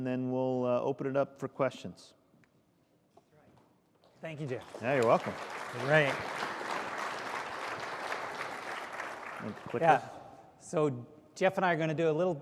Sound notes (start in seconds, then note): 8.6 applause